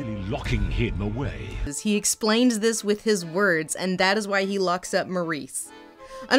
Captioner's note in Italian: voce fuori campo